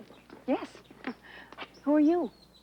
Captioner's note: chuckles